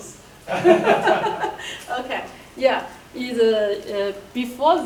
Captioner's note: laughing